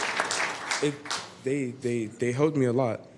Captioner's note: applause; applause